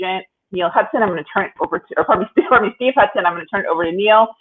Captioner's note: chuckles